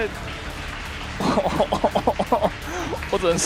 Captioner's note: bitter laugh